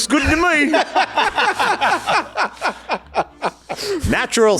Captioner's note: laughter